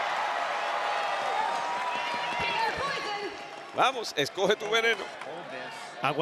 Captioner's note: applause